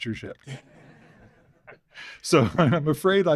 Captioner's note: laughter